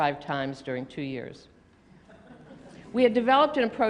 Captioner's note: laughter